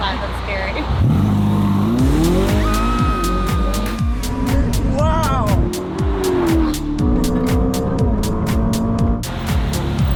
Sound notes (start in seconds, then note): 1.3 car engine revving; 2.5 screams; 6.3 upbeat music